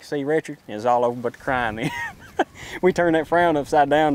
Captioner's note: laughs